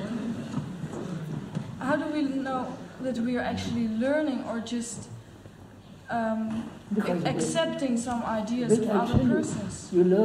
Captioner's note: laughter